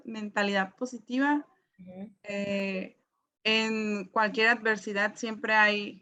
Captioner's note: speaks in foreign language